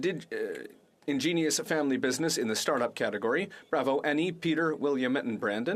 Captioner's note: speaking French